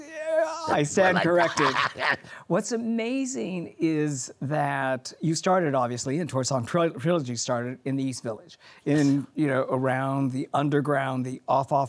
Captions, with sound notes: >>I stand corrected. (laughs) >>What's amazing is that you started obviously in, Torch Song Trilogy, started in the East Village in, you know, around the underground, the off, off Broadway.